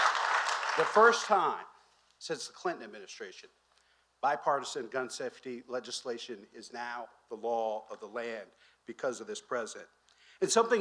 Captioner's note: applause